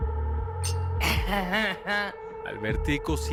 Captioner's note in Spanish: Tintineo de copas